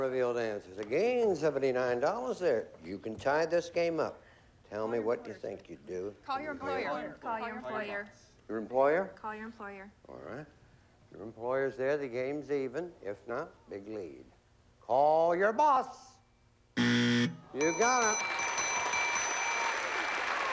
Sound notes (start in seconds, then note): 16.7 buzzer; 17.7 applause